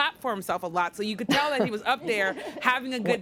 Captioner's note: laughter